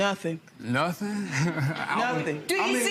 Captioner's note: chuckling